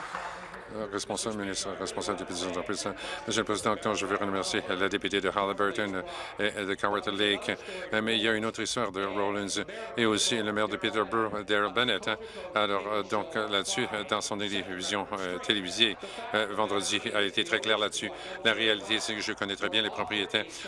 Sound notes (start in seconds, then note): 0.0 applause